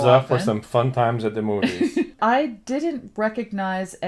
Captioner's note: laughs